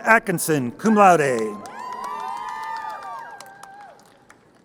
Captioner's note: crowd cheering